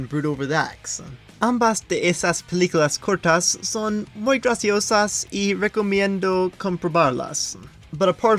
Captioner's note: in Spanish